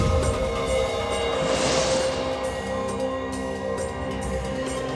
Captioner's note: dramatic instrumental music; light beam swishing